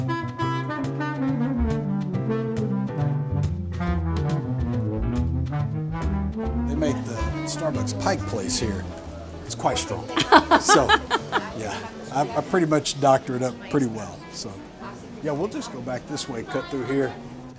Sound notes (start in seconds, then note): 10.1 laughs